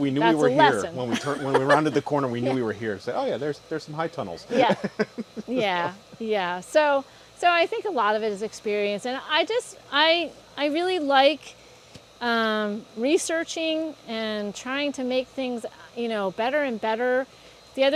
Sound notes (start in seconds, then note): 4.5 laughter